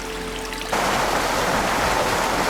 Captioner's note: rushing water